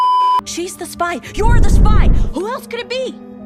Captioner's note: beeeeeep; intense brown noise